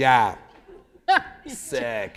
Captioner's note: laughter